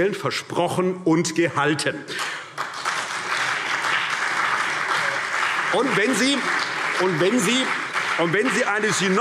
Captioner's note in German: Beifall CDU und BÜNDNIS 90/DIE GRÜNEN